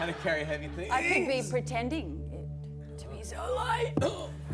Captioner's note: straining